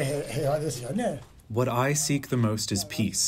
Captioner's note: through translator